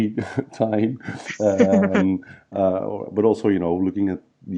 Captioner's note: laughs